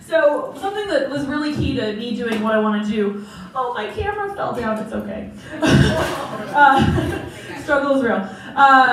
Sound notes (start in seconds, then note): 5.5 crowd Laughing; 5.6 laughing